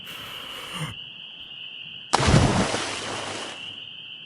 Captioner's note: inhales deeply, then dives into the water